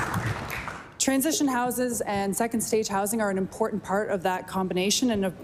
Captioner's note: applause